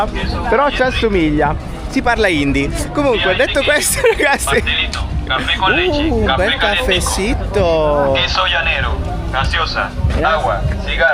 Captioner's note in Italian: risate